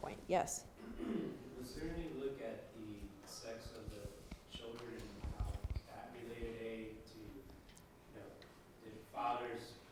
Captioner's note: cough